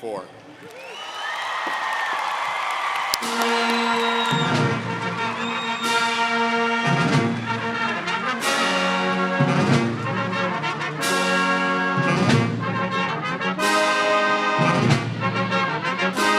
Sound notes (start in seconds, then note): 0.3 audience cheering & applauding; 5.0 instrumental music